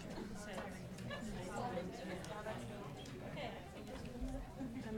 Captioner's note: people chattering